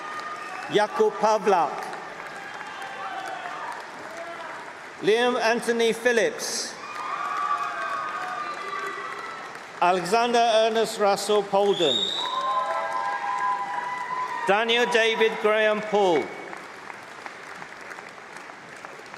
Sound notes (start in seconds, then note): 2.5 applause; 3.8 cheering